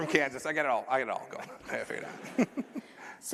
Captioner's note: laughter